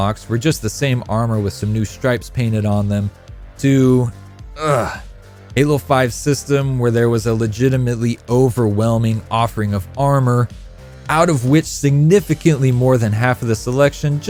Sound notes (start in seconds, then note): 4.5 grunts